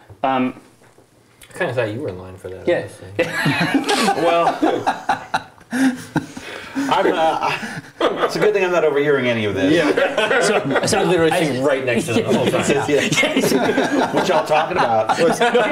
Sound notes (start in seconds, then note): 3.2 laughs; 14.8 laughter